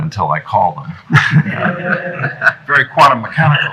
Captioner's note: laughter